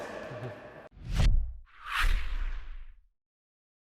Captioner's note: swooshing